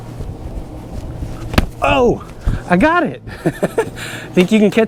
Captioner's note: laughs